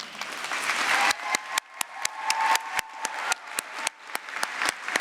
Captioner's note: applause